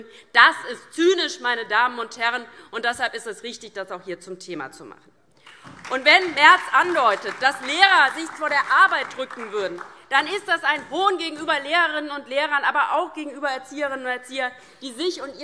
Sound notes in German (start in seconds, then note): 5.4 Beifall DIE LINKE und SPD